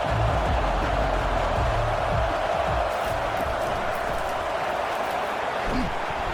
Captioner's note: crowd Noises